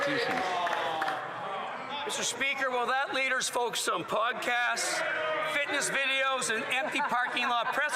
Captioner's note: some Applause